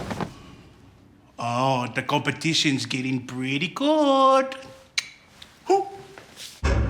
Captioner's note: clicks tongue